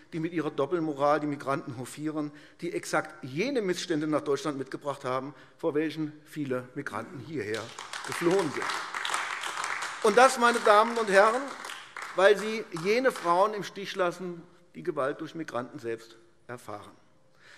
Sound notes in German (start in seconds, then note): 7.4 Beifall AfD